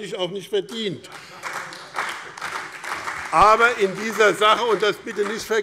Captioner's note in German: Beifall BÜNDNIS 90/DIE GRÜNEN, CDU und Freie Demokraten